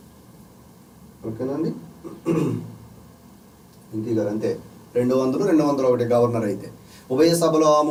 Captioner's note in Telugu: గొంతు సవరించుకోవడం